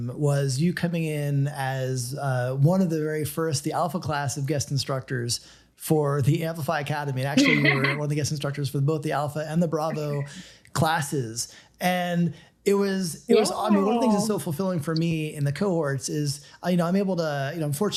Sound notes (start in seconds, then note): 7.3 laughs